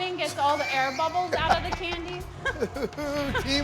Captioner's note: laughs